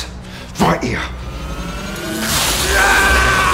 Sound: electricity charging; electrocution and pained screaming

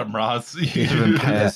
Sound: laughs

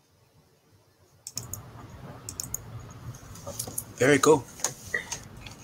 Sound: mouse clicking

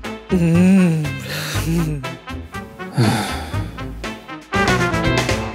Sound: man sighs unhappily; woman sighs happily

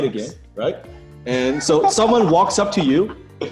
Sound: laughing

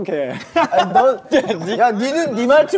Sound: haha

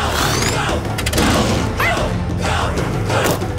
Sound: barking

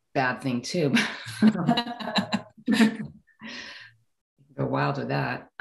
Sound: women laughing

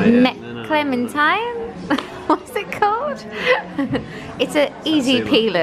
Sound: laughs

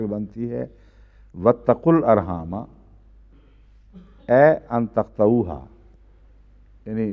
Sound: Arabic

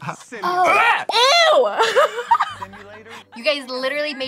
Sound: laughs

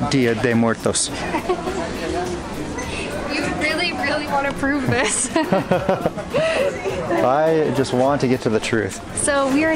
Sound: laughter

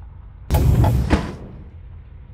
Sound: elevator door opens

